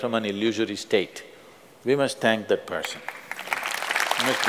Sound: applause

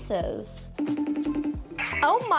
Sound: FaceTime ringing

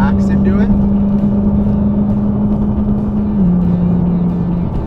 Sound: car engine roaring

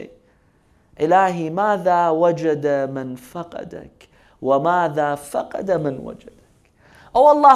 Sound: Arabic

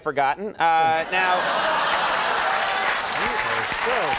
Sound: applause

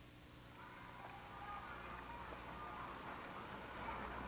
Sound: noises of children playing

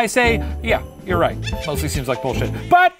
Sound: demonic laughs

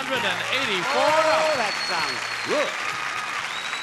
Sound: audience applauding

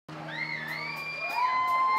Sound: audience cheers; audience member whistles; cymbals clanking

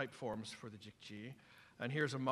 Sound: non-english speech

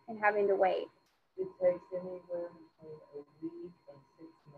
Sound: speaking faintly

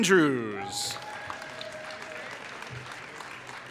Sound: applause

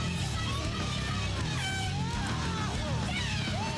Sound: horn toots

